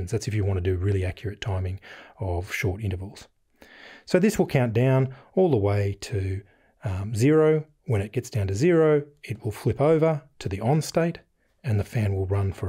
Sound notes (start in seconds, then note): none